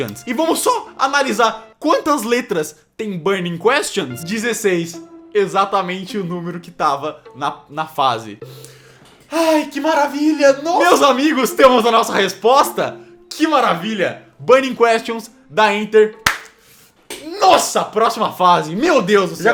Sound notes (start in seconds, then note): 16.2 claps